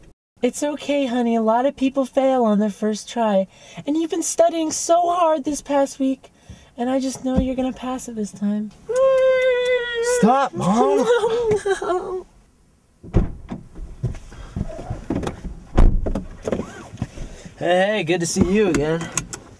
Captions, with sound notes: It's okay, honey. A lot of people fail on their first try. And you've been studying so hard this past week. And I just know you're gonna pass it this time. Stop, mom! (Door Open) (Door Close) Hey good to see you again.